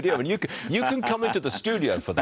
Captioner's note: laughter